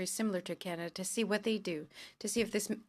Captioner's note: speaking French